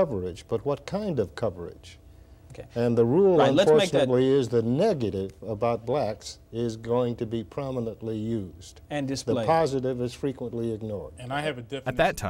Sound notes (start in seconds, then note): none